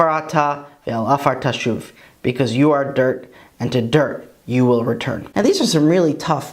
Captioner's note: Hebrew